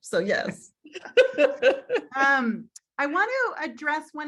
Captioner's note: laughs